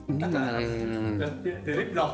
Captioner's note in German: Lachen